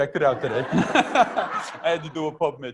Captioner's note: group laughter